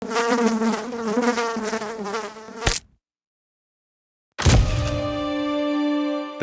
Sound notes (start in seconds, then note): 0.0 fly buzzing; 2.6 fly splatting; 4.7 mysterious music